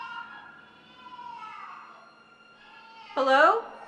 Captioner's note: crying intensifies